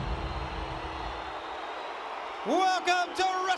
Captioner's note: crowd cheering